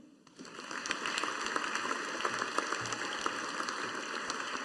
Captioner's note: audience applauding